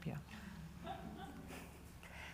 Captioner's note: laughter